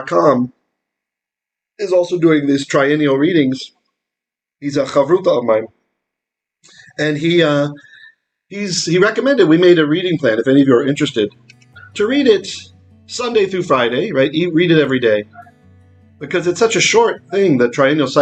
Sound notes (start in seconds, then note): 5.1 Aramaic